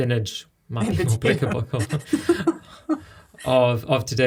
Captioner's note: laughing